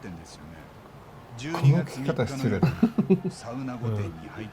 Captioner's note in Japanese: 笑い